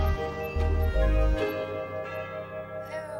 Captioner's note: doorbell rings